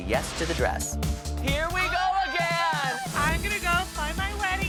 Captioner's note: excited screaming